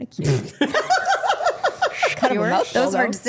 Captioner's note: women laughing